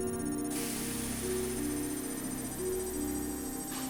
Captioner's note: beeping rapidly